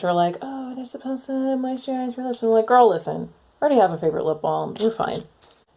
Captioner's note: mocking voice